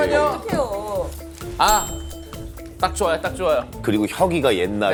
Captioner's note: fumbling